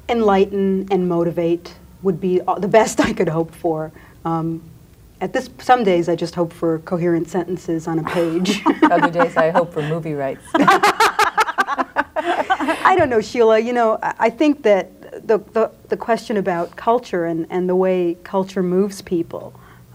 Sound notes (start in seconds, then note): 8.0 laughs; 10.7 group laughs